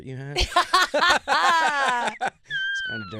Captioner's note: laughing